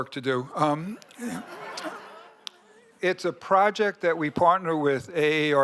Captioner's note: laughter